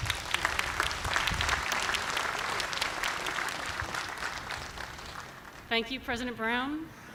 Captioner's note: applause